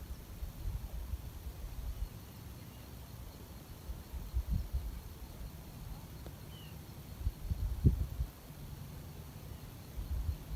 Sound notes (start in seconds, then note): 7.0 birdsong in background